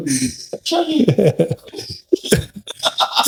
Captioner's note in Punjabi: ਗਲਾ ਸਾਫ਼ ਕਰਨ ਦੀ ਅਵਾਜ਼